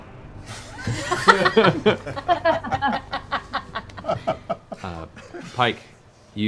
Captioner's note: laughter